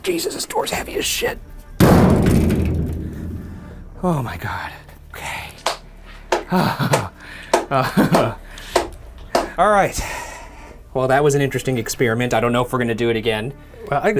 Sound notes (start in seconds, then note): 1.7 door thuds; 6.4 clapping